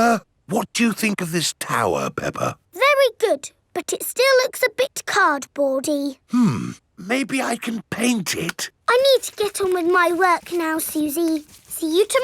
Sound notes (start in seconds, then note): none